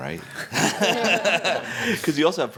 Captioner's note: laughter